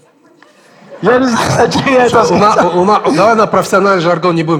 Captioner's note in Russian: смеется